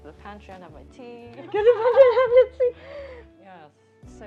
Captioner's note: laughs